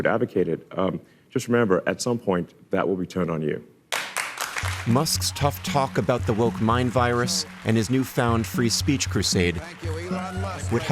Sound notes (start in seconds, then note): 3.9 audience applauding